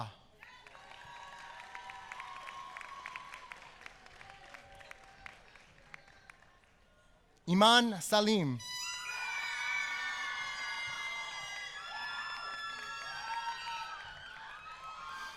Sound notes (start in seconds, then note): 3.7 applause